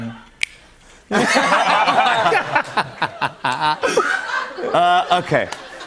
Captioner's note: laughter